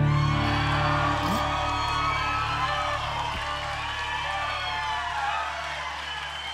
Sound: audience cheering and applauding

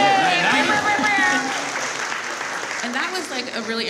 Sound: audience applauds

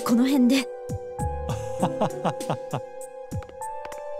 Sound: awkward laugh

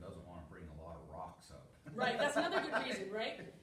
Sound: laughter

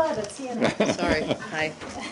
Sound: laughter

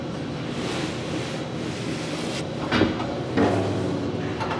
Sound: bagels scraping

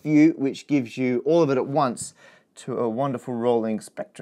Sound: none

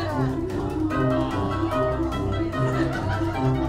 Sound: audience awws

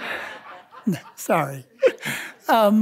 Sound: audience laughing; laughs

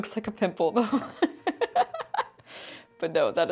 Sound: laughs

